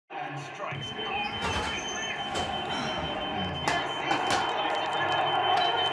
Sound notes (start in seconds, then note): 0.1 TV plays on; 0.7 electric cooker beeps